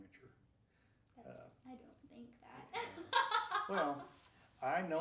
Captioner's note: laughing